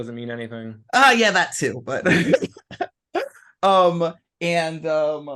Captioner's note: laughing